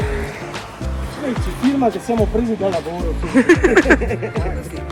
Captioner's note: laughter